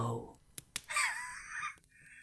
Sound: the captive hisses and grins through blood-stained teeth

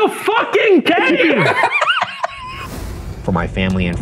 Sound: laughing

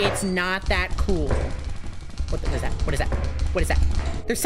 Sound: rapid footsteps

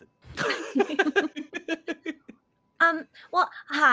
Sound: multiple laughing

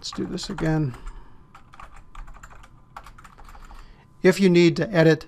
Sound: typing

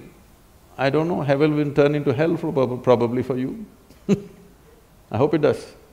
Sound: laughter; laughs

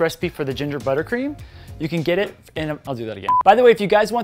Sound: stutters

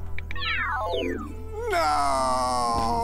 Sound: phone beeps

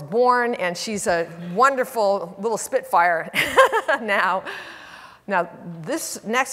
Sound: laughs

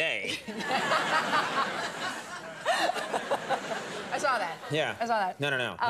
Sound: audience laughs

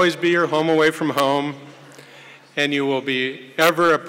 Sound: none

